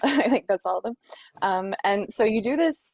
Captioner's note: chuckling